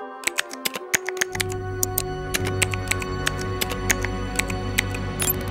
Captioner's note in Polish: dźwięk wklepywania z klawiatury